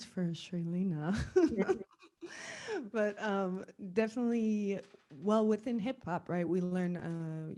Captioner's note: laugh